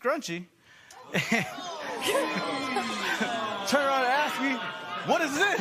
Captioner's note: spectators "Ooh"